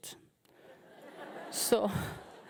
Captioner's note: audience laughing